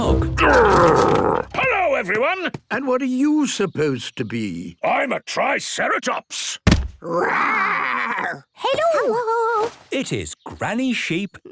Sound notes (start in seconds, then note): 6.6 thudding